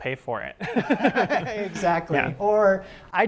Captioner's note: laughs